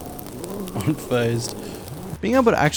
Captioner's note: burning skin sound